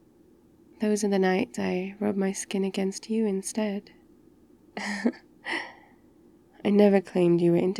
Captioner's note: laughs